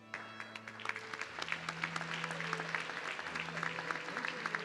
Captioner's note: audience clapping